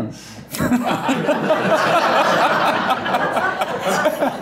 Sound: loud laughter

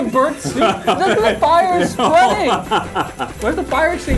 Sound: laughing

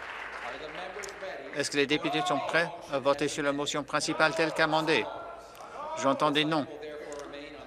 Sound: applause

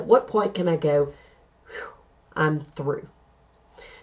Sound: exhale

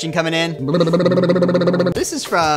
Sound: both sputtering

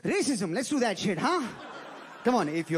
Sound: crowd laughing

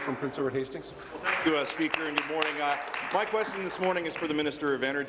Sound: applause

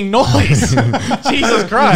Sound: both laughs

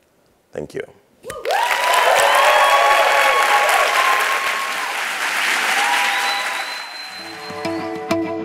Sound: applause

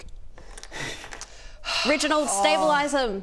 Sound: sigh

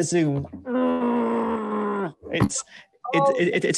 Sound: growling

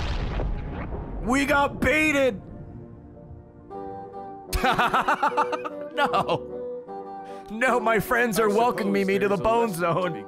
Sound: laughs

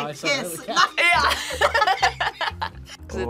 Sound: both laugh

